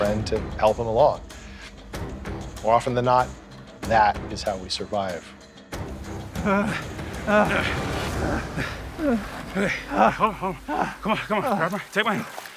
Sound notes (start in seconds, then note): 6.4 bartram groans; 9.5 McINTOSH GRUNTS